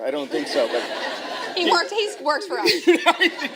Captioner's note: laughter